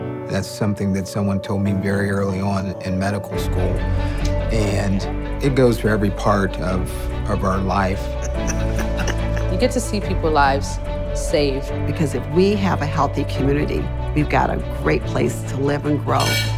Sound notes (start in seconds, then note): 8.1 laughter